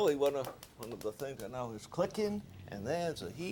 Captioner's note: burner clicking